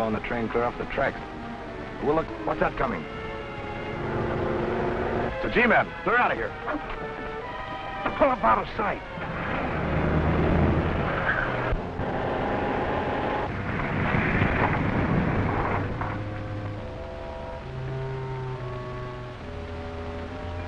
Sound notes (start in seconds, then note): 3.8 car rumbling; 10.0 car rumbling; 11.6 tense music